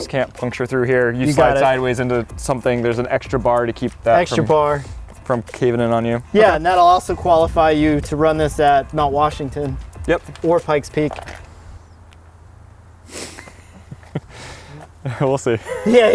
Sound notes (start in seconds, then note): 13.2 laughing